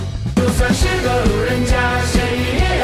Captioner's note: talking and laughing